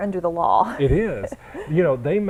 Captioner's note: chuckle